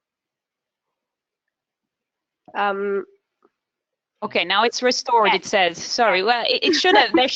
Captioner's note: laughs